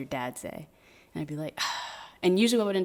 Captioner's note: sighs